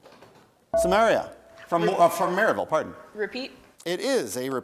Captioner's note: bell rings